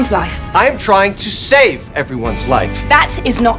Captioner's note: shouting